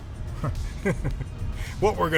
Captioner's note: Mayor Tennity chuckles